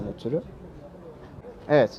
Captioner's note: crowd Noises